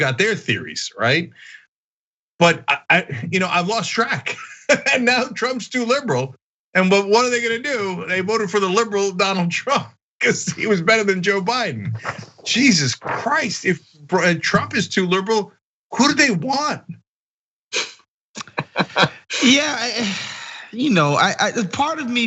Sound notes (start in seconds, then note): 4.2 laugh; 18.4 laugh